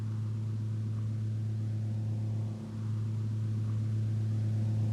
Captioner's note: machinery rumbling